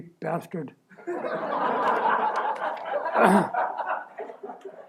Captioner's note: laughter